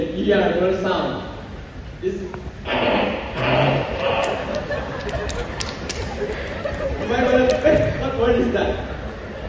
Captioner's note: confused and stifled laughter from the crowd